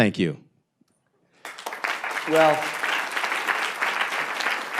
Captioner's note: applause